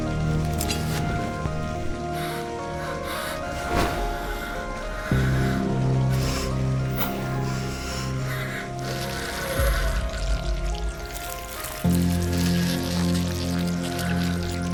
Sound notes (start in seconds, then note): 1.9 dramatic, ominous music; 1.9 water hissing; 9.0 dramatic, ominous music; 9.0 flesh squelching